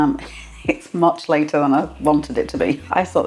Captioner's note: laugh